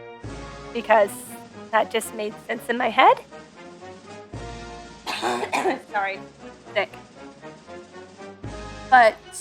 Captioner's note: coughs again